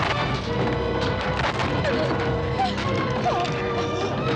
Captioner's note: whimpering